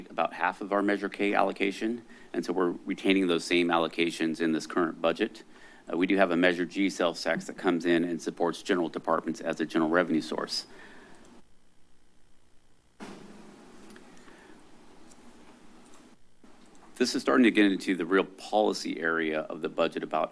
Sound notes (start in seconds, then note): 12.9 pause